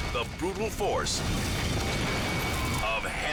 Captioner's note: fire roaring; steeple crashing